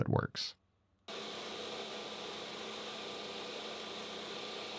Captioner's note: machine whirring